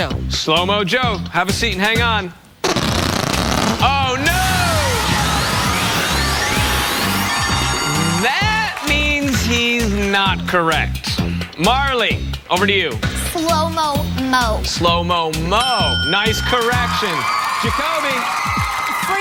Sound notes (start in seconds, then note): 2.6 fart sound; 8.4 audience laughs